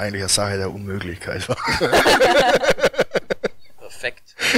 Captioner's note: laughter